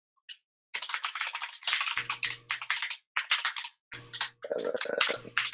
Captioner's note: keyboard keys clanking